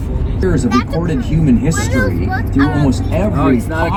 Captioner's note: radio plays